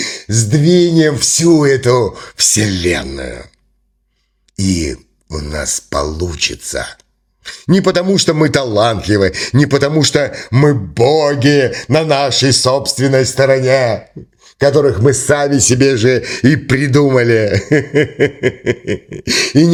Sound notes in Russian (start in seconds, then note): 17.4 смех